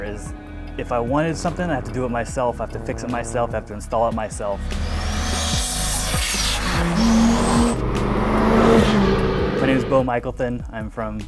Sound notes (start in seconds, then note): 6.9 engine roaring